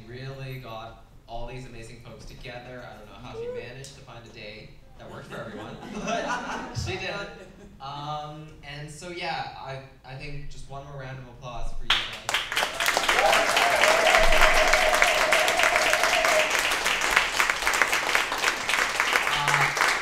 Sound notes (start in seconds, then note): 7.7 laughter; 11.9 applause